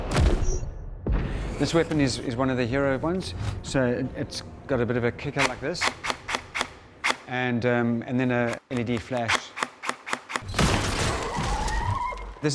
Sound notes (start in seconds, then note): 5.8 weapon whirs; 10.7 rifle booms; 11.0 target squeals